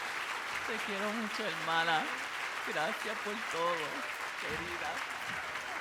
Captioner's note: speaking Spanish